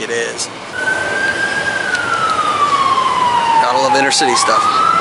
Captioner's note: sirens wailing